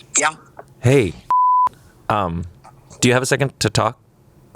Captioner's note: beep